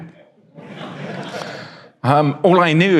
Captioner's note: audience laughs